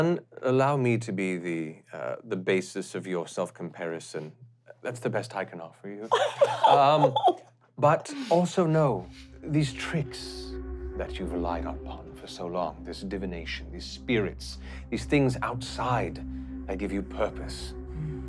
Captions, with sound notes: - One, allow me to be the basis of your self-comparison. That's the best I can offer you. (laughing) But also know. (spooky music) These tricks that you've relied upon for so long, this divination, these spirits, these things outside that give you purpose,